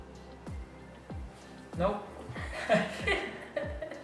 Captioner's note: laugh